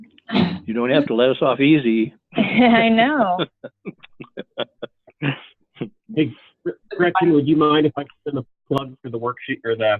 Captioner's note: laughs